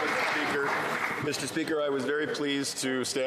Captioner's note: some Applause